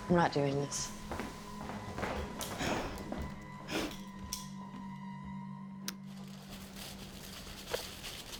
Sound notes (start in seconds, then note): 0.9 footsteps tapping